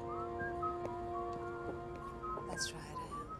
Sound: whistling

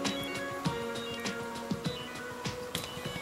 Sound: none

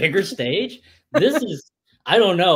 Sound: laughs

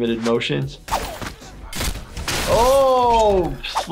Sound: blade slashing

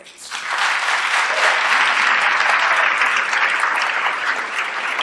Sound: applause

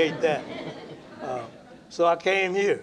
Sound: laughter

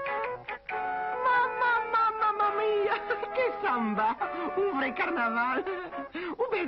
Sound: laughs

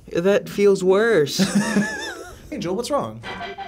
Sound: laughs

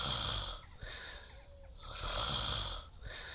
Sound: snoring

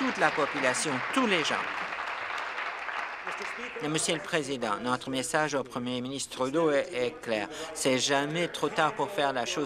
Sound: applause

